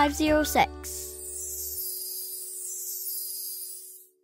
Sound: twinkling

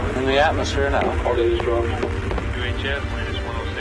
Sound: men chattering

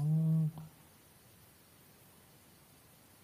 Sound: hums

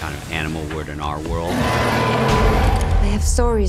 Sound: growl

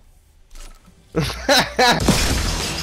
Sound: teammate laughing; intense music

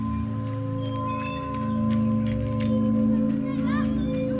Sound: swing squeaking; eerie music

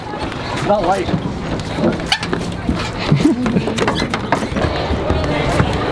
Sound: dock creaking

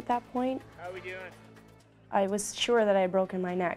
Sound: voiceover

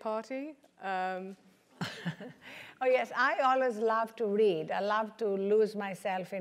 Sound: laugh

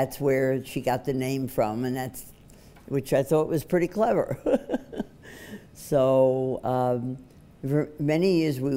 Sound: laughs

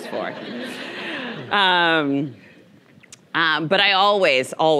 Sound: audience chuckling

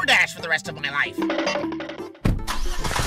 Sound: cartoon run sound

